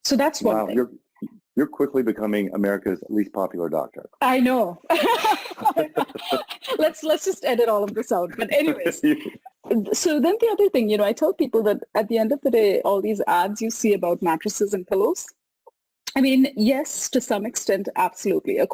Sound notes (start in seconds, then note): 4.8 laughs